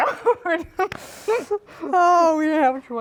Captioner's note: laughing